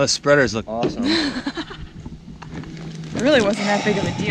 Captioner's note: laughs